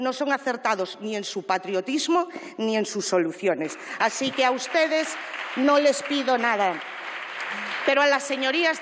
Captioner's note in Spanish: Aplausos